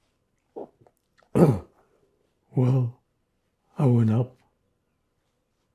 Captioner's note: clears throat